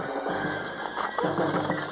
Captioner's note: disconnection signal